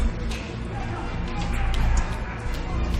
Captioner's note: tumult